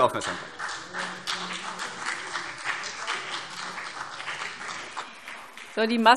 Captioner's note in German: Beifall CDU und BÜNDNIS 90/DIE GRÜNEN